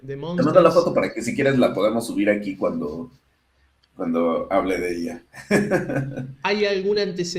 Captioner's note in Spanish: risas